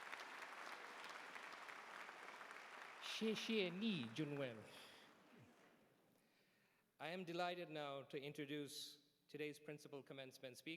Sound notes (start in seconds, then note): 3.0 speaking chinese